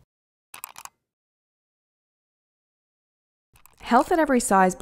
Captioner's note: keyboard clicking